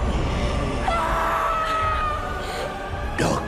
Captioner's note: lilly screams